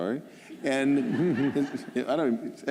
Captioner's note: laughter